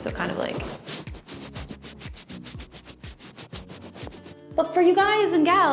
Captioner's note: microphone being rubbed